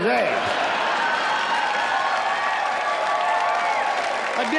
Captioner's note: audience laughs